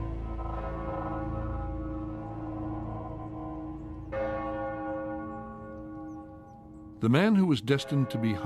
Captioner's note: bell tolling